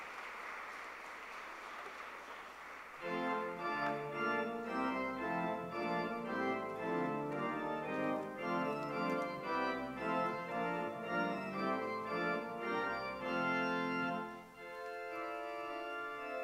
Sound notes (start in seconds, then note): 2.0 applause